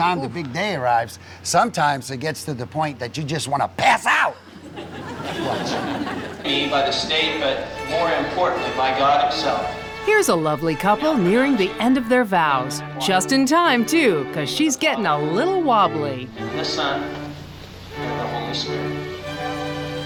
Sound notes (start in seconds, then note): 4.4 audience chuckling; 7.2 wedding march music